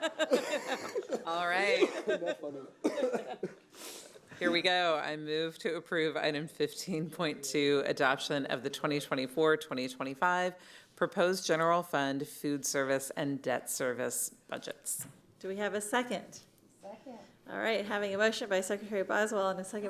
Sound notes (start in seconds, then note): 2.8 laughter